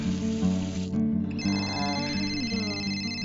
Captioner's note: phone rings